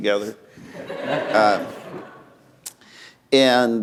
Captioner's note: laughter